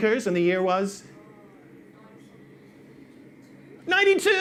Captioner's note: audience member responds